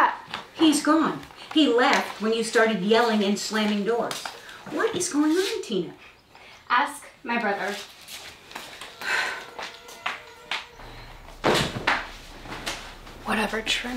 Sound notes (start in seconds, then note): 8.9 sighs; 10.3 dramatic music